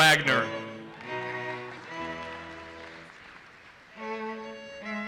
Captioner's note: audience applauses